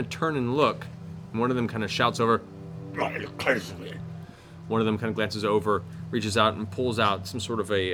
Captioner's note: snarling